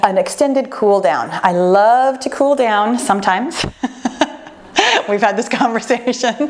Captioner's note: laughing